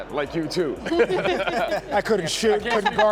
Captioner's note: laughter